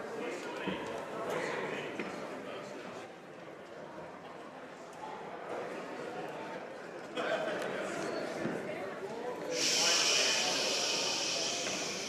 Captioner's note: speaking French